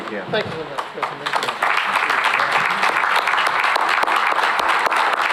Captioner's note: applause